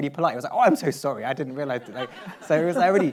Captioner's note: laughs